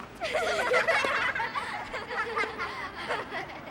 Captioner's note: kids laughing